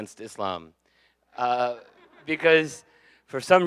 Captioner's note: audience laughing